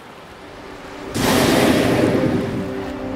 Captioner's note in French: Rorqual qui souffle